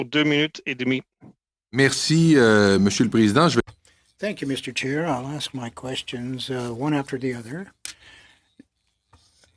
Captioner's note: speaking French